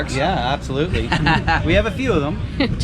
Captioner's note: laughs